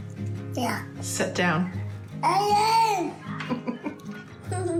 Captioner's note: chuckles